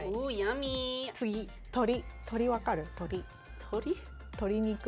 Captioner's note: speaking Japanese